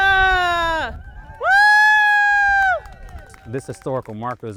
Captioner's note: crowd cheering